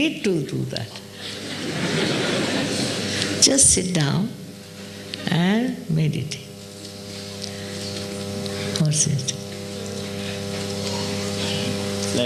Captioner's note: laughter